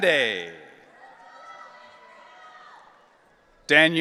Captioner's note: audience cheering